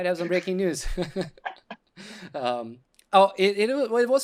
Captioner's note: laughter